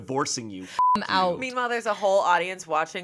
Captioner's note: beep